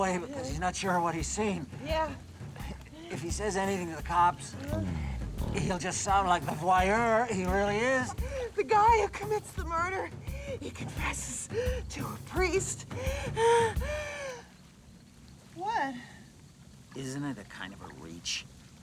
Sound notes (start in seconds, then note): 9.5 gasps; 12.6 gasps